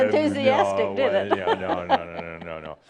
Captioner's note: she chuckles